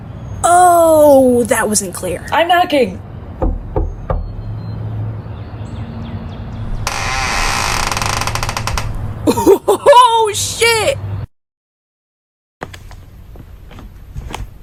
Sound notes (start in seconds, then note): 6.6 door creaks open; 12.6 quiet footsteps